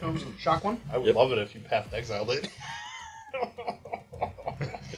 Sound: laughing

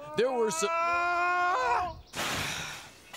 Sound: Stinky & Yves yelling; glass shattering

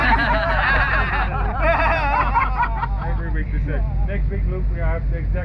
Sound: group members laughing

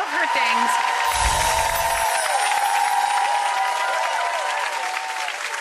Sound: audience cheering and clapping

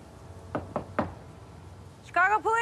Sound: knocking on door

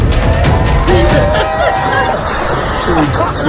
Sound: couple laughs

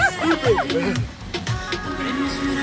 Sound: laughs, giggles; sniffs

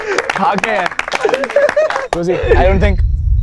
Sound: laughs

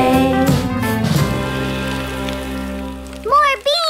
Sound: rain

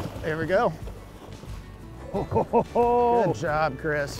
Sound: laughs

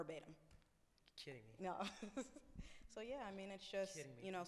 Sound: laughs

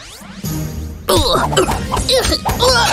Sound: confused sounds of fighting

